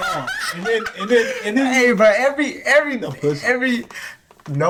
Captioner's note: laughing